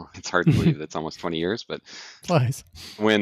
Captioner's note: laughs